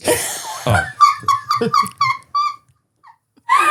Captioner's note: laughing